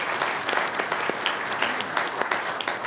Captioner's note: applause